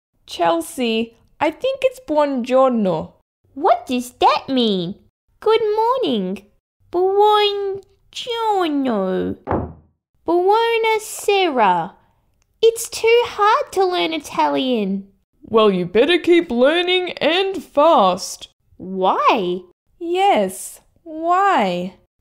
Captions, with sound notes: Chelsea, I think it's Buon giorno What does that mean? Good morning Buon giorno... (Slam!) Buona sera... It's too hard to learn Italian! Well you better keep learning and fast Why? Yes, why?